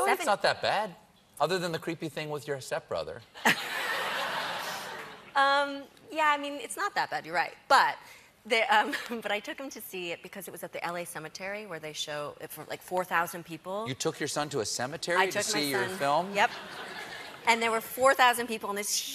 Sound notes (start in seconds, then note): 3.4 laughter